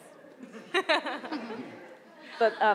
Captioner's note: laughing